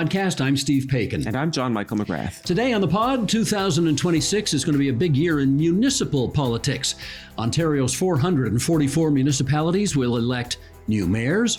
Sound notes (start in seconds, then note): none